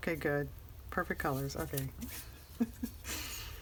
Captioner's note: laughs